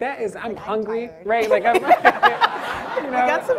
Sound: audience and panel laughs

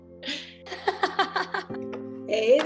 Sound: laughter

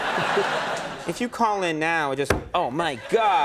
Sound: audience laughing; hand slams table

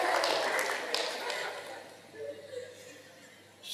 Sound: laughter/Applause

